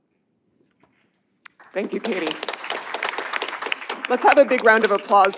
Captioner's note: applause